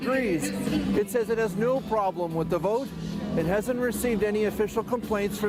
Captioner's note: speaking russian